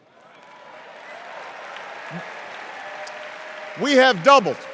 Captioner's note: cheers and applause